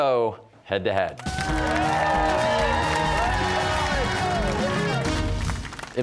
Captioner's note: cheers and applause